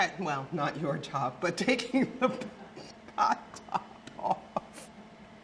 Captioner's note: laughs